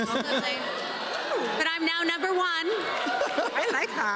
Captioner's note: laughter